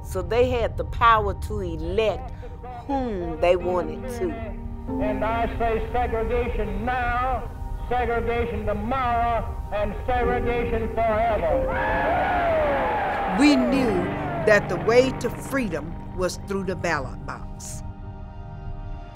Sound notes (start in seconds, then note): 11.6 cheering